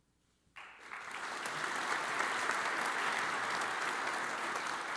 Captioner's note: audience applauds